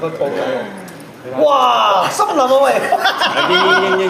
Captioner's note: laughs